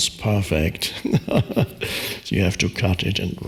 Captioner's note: laughs